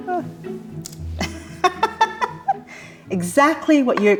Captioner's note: chuckles